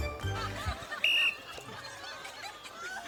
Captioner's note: blows whistle